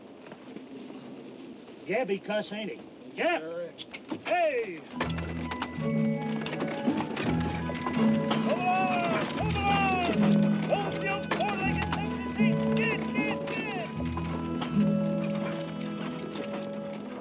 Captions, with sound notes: Gabby cuss, ain't he? - Sure is. - Hey! Move along, move along! Move, you four-legged (speaker trails off). (gentle music)